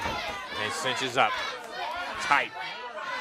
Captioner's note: crowd cheering